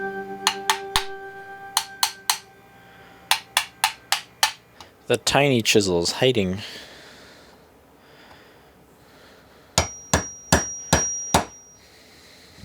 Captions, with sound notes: *tap tap tap* *tap tap tap* *tap tap tap tap tap* The tiny chisel is hiding. *ting ting ting ting ting*